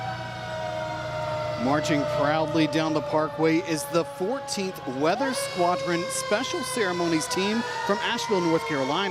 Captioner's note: sirens